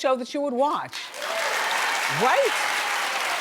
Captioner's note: audience claps